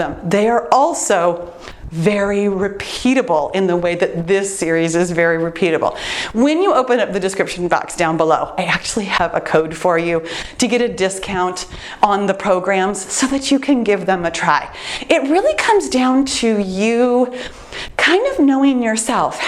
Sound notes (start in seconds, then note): none